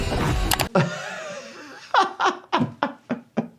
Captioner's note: doctor laughs